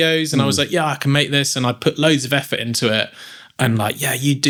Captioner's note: none